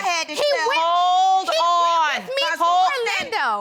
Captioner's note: arguing continues